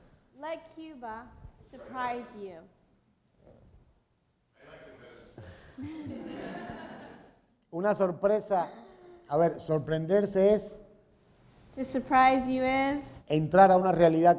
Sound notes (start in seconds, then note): 4.3 speaking in Spanish; 5.4 laughter; 12.0 speaking in Spanish